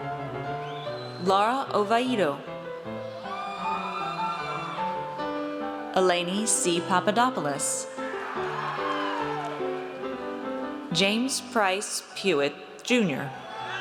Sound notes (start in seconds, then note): 3.1 audience cheers; 7.9 audience cheers